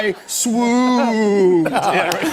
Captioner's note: laughter